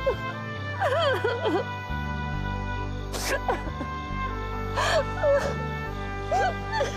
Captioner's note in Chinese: 哭聲